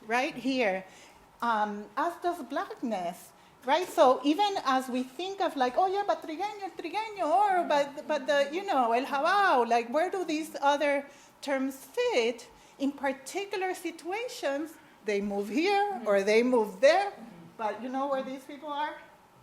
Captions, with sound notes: right here, as does blackness, right? So, even as we think of like, oh yeah, but (speaking in foreign language) Like where do these other terms fit, in particular situations, they move here or they move there, but you know where these people are,